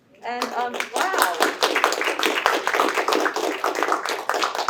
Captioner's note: applause